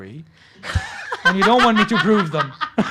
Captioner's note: laughs